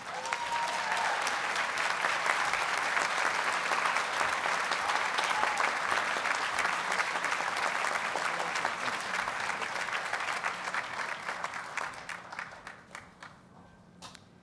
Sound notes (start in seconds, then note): 0.0 audience cheers and applauds